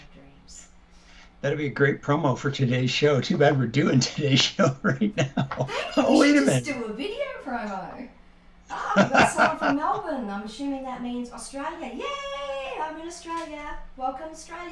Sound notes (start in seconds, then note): 4.2 laughter